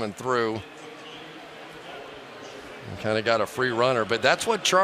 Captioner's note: pa announcement